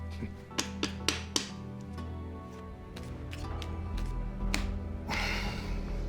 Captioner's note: tapping, shuffling sounds; sighs